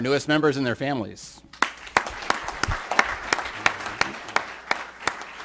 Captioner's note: applause